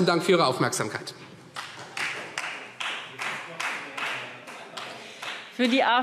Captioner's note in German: Beifall Freie Demokraten